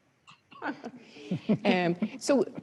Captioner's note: chuckles